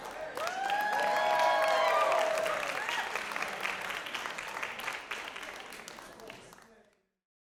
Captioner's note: applause, cheering